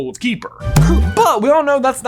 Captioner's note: grunts; Quaffle thuds